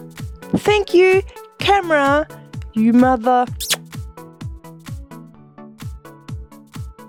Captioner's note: kiss noise